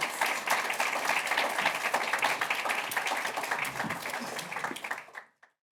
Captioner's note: applause